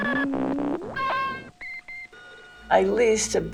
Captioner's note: Xerox beeping and buzzing